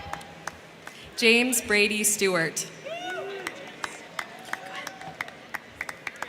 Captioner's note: crowd cheering; crowd cheering